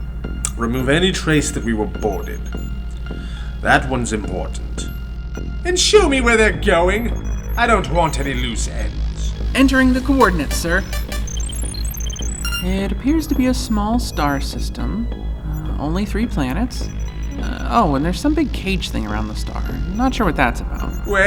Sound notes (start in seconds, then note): 11.6 Porter taps the screen